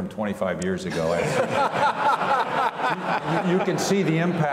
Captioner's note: all laugh